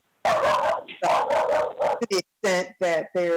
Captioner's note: dog barking